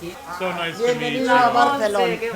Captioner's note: speaking foreign language